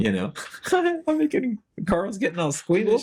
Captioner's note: laughs